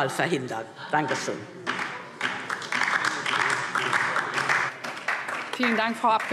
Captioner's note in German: Beifall DIE LINKE